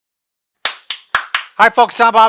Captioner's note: claps